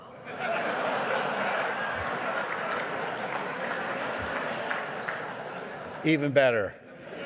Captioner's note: laughter